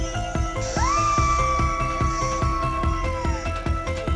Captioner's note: screams